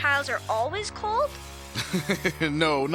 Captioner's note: laughs